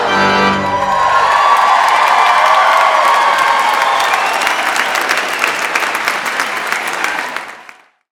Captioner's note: applause